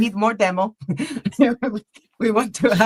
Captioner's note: laughter